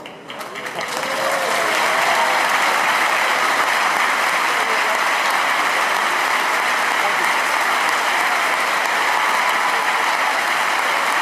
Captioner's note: applause and cheers